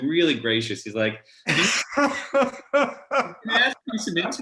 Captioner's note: laughs